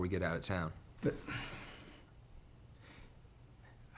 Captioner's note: sighs